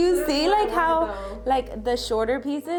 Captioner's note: laughing